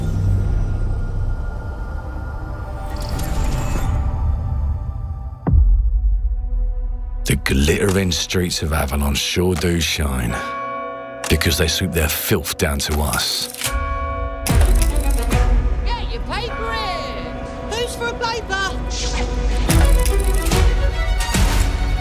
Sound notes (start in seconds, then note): 10.1 bell tolls; 14.5 mechanical clicking